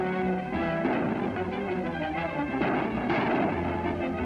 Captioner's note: gunshots